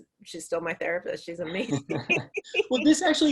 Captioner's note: laughing; laughs